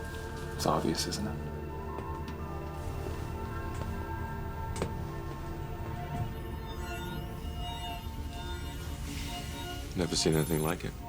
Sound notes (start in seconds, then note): 6.0 scanner whirrs